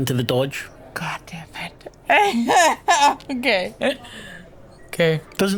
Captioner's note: whisper; laughs